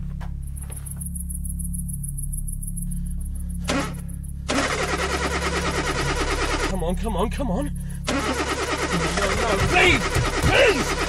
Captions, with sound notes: (car engine squeals) - Come on, come on, come on! No, no, no, please, please!